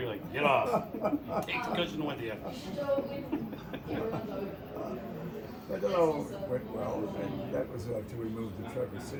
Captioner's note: laughter